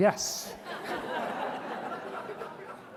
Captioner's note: laughter